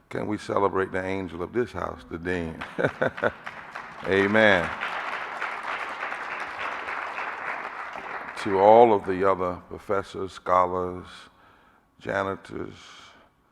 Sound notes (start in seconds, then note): 2.6 audience applauding